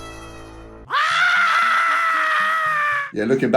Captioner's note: person screaming